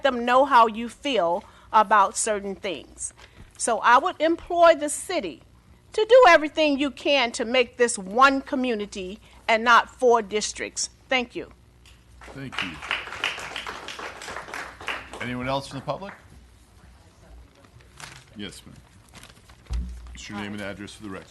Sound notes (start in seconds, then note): 12.2 applause